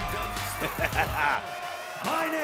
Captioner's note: cheers & applause; laughing